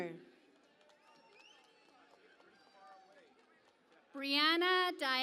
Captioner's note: cheering and Applause